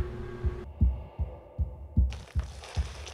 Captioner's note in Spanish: latido del corazón; respiración fuerte